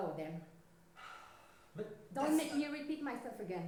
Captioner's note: sigh